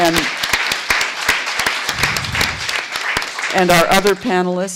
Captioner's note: applause